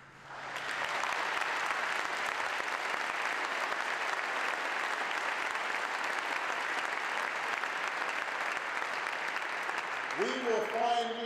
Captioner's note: applause